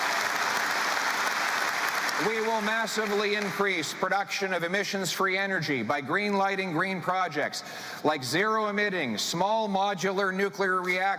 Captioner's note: cheering and Applause